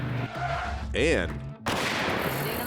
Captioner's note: gunshot